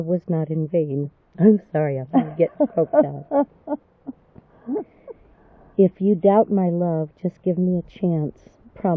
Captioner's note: laughs